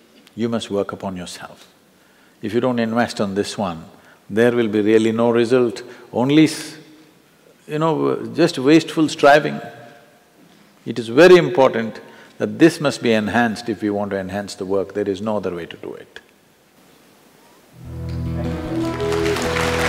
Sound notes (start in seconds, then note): 18.4 applause